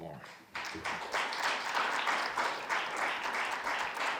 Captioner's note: audience applauds